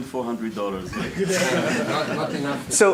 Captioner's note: laughter